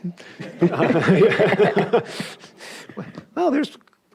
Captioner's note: laugh